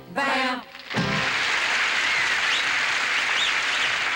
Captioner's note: audience applauding